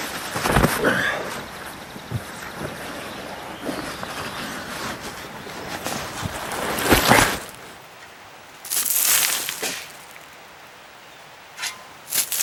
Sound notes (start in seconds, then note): 9.3 digging sounds